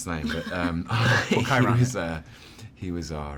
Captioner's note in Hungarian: nevetnek